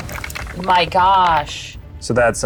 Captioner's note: dice rattling